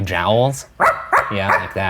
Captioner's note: barking